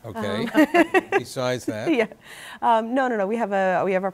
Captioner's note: laughter